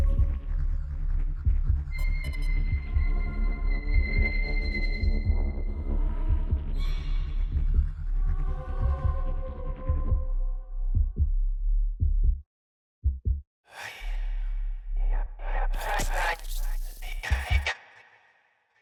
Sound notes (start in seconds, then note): 16.9 eerie whispering